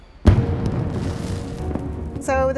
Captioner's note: fireworks explode